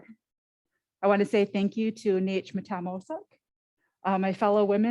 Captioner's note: foreign language